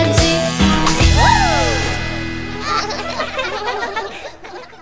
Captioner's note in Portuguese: Risos